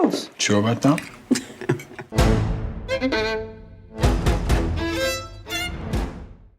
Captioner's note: laughs; dramatic violin music